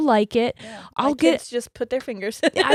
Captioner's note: laughs